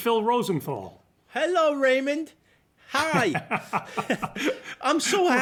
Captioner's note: laughter